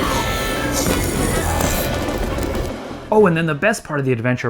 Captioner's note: growling